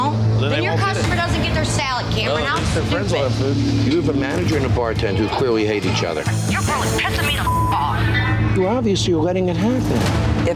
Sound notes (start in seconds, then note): 7.1 beep